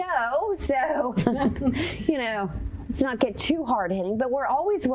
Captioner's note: chuckling